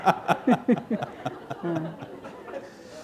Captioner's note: laughter